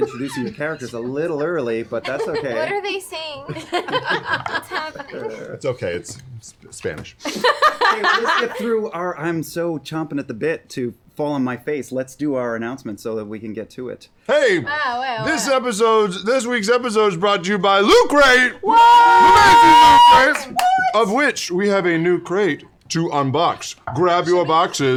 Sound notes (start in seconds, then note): 7.2 laughter